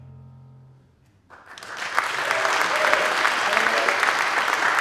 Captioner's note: applause